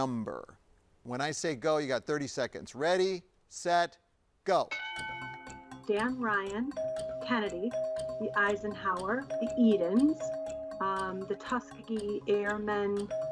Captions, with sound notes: When I say go, you got 30 seconds. Ready, set, go. (bell dings) - Dan Ryan, Kennedy, (bell chiming) the Eisenhower, the Edens, (bell chiming) the Tuskegee Airmen Expressway.